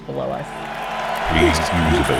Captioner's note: crowd cheering